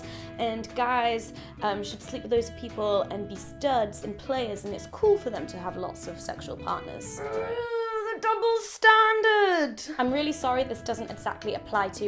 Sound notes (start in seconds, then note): 7.1 groans